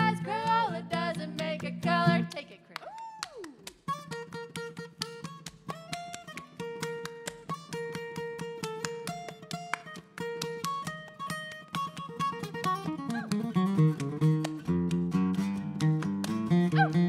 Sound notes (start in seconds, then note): 3.3 bright folksy guitar music; 3.3 rhythmic clapping continues